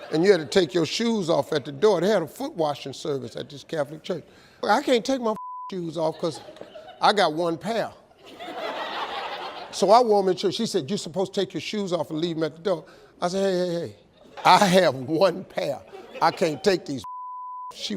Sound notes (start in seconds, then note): 5.3 beep; 8.2 audience laughs; 17.0 beep